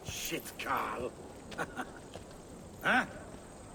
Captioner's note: laughs